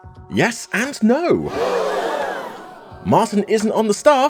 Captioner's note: audience: *GASP!